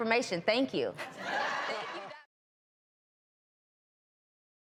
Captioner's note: audience laughs